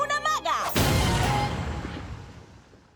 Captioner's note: explosion